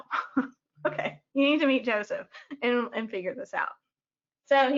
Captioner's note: chuckles